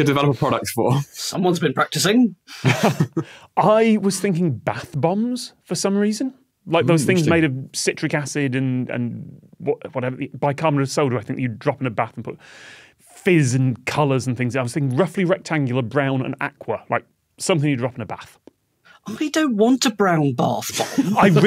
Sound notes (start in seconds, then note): 2.6 group snickering